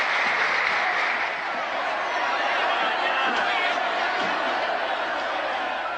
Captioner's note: applause; crowd noise